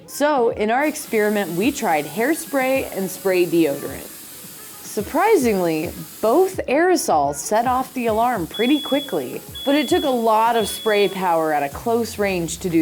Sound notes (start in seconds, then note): 8.4 beeping